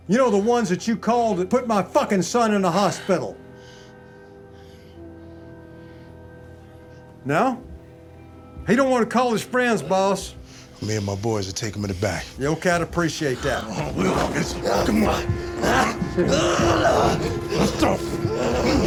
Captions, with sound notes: You know, the ones that you call to put my fucking son in the hospital. [TENSE MUSIC] No? He don't want to call his friends, boss. Me and my boys will take him in the back. The old cat'll appreciate that. Come on. [GROANING] Let's go.